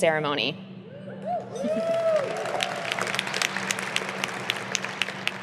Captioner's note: audience applauding